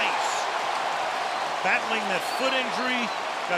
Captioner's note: cheering